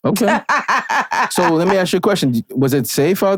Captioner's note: laughing